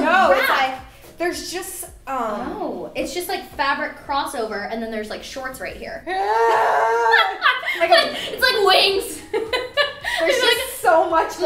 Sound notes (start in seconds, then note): 6.0 growling; 6.0 laughter